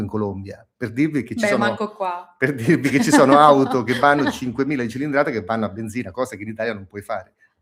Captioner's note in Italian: risate